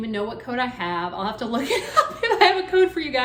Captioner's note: laughs